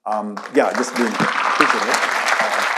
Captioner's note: audience clapping